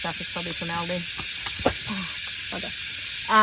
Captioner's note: lid thumps as it falls backwards